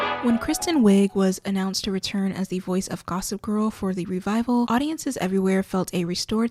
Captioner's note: bell